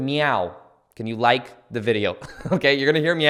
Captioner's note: chuckles